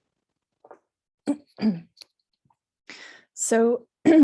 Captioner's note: clears throat